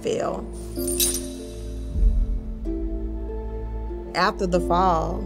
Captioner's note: chains clink